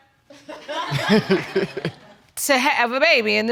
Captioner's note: laughter